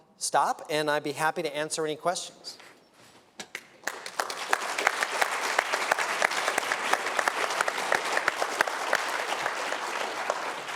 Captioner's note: applause